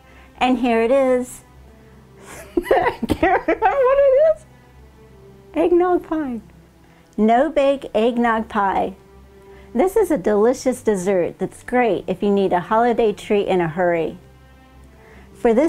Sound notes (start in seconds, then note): 2.3 laughing